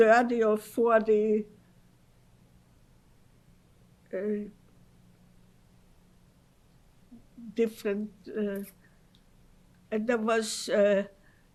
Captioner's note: pauses for 6 seconds